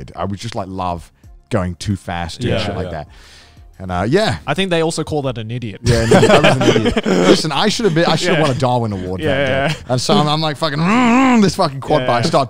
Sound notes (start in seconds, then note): 5.8 laughing